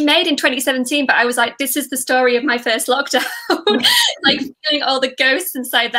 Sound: laughs

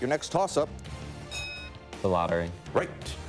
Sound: ding

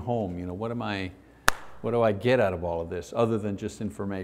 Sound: claps

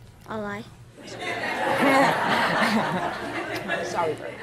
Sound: audience laughing

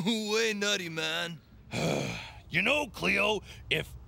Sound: sighs

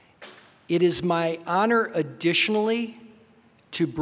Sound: none

